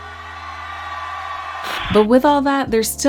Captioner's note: audience cheers